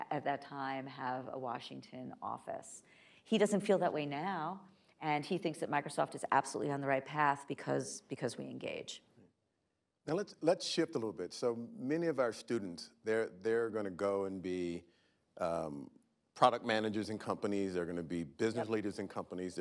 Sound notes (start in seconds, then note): none